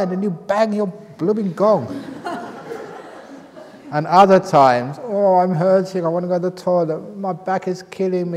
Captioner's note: laughter